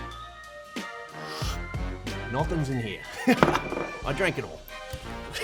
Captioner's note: sips